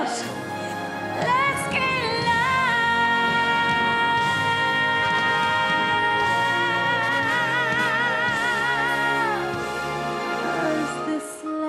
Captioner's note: speaking in foreign language